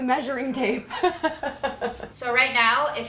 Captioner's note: laughs